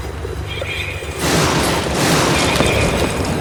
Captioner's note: explosion